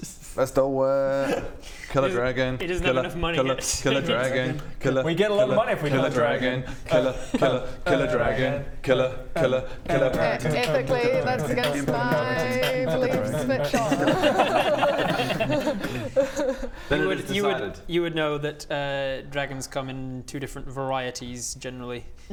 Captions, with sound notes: let's do it! kill a dragon - kill a kill a kill a dragon - He doesn't have enough money yet! - kill a kill a kill a dragon - we get a lot of money if we kill a dragon kill a kill a kill a dragon kill a kill a kill a dragon - Ethically that's against my beliefs but sure - *beat boxing dragon rap* *laughs* Then it is decided You would know that dragons come in two different varieties generally